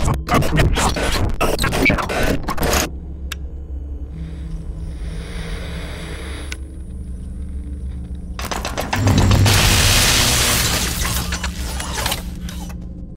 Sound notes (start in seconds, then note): 9.4 zap